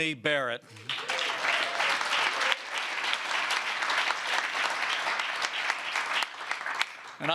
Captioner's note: applause